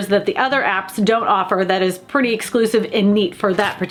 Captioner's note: none